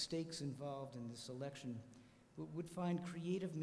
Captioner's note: none